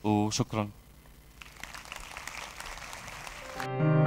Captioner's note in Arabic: تصفيق